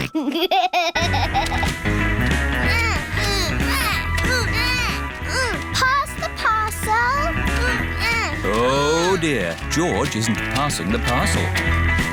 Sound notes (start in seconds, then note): 0.0 snorts and laughs; 2.6 both grunting